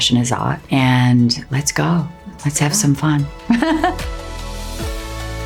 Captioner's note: laughs; uplifting music